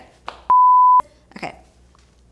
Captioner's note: beep